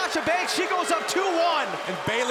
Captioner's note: crowd chatter; crowd cheering